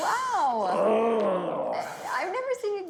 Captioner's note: grunting